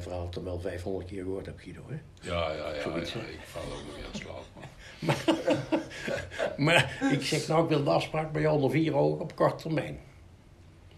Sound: laughter

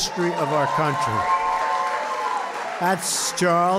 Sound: applause

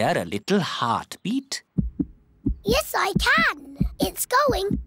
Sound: heart thumps

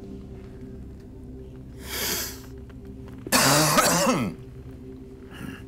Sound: sniffs and coughs

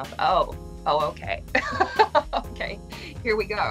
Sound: laughs

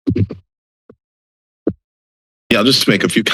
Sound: silence

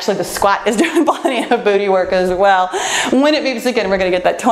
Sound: laughs

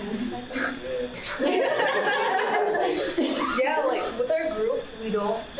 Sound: panel laughing

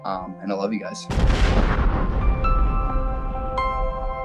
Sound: booms

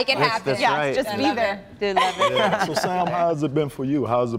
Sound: laughter

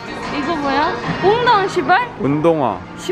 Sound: swearing

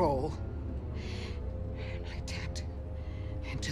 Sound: deep breath

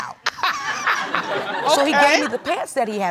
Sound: chuckles

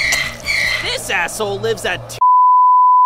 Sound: Twitter bird chirping; beep

